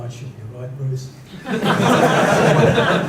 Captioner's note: laughter